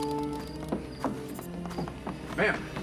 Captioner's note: footsteps tap